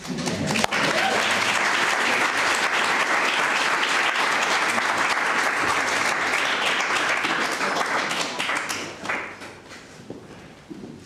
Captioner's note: applause